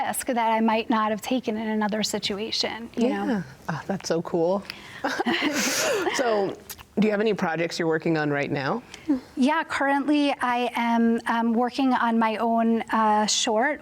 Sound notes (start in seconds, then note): 5.0 both laugh